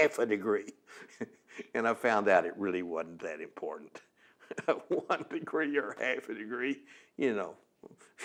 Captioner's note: laughs